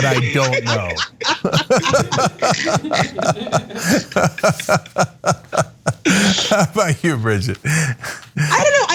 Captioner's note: laugh